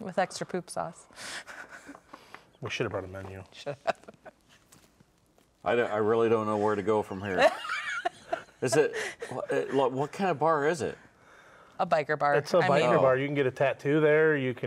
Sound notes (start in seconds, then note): 3.7 laughs; 7.2 laughs